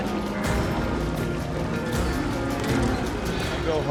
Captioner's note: mooing